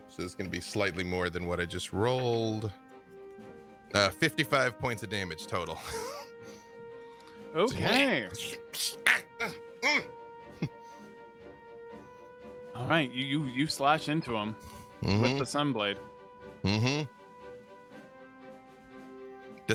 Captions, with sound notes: So it's gonna be slightly more than what I just rolled. 55 points of damage total. - Okay. (grunting) All right, you slash into him with the sun blade. - Mm-hm.